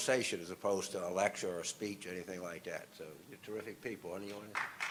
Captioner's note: applause